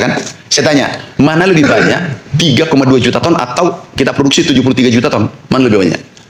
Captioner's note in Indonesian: berdehem